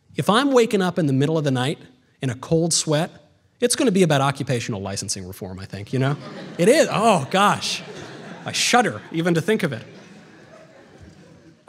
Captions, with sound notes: If I'm waking up in the middle of the night in a cold sweat, it's going to be about occupational licensing reform, I think, you know? [audience laughter] It is, oh gosh, I shudder even to think of it.